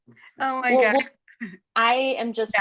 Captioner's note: laughing